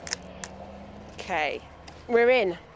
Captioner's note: cell phone crunching